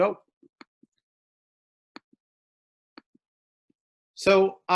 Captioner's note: mouse clicking